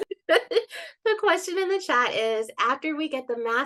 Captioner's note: chuckles